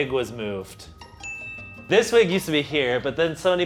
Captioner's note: correct buzzer